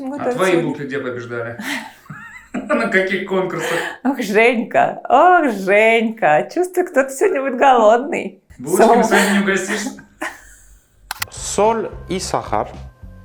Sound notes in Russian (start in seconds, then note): 1.8 голос за кадром; 10.0 голос за кадром